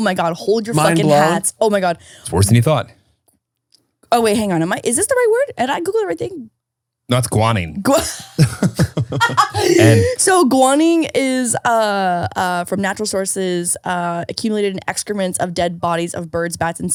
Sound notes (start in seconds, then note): 7.9 all laughing